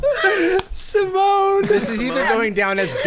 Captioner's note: pat; laughing